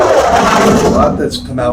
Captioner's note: jets sounds